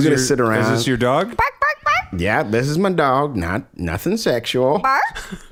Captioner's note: speaking normally